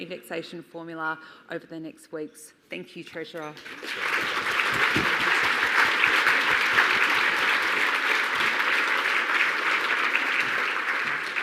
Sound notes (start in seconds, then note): 4.8 audience applauds